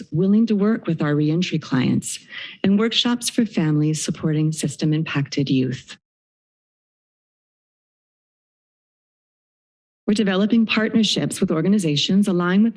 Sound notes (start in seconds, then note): 6.1 silence